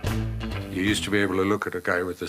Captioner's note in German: englisch